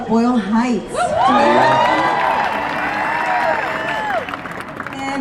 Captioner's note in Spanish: la multitud aplaude y vitorea